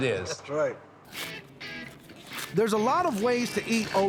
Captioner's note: shucking corn